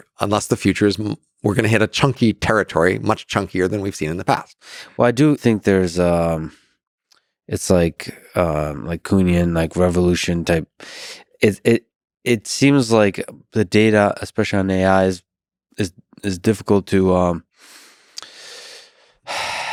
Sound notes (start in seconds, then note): 16.8 sighs